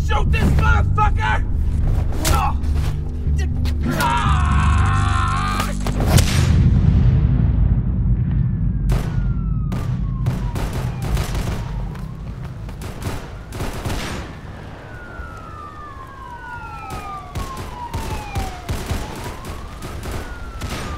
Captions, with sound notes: Shoot this motherfucker! (shock)